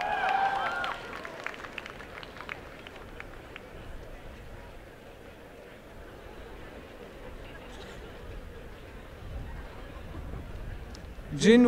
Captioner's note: applause